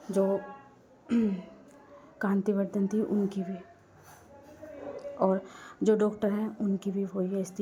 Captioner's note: clearing throat